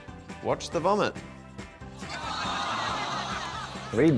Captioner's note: groaning, laughter